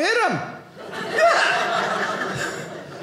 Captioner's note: audience laughing